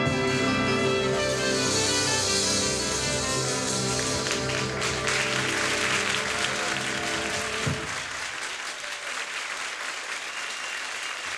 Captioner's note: applause